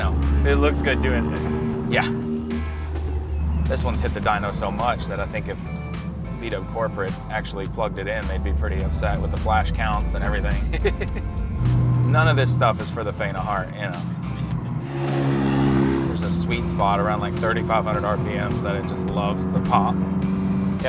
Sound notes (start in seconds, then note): 10.6 laughs